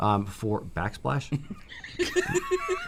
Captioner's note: laughter